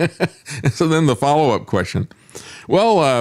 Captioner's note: laughs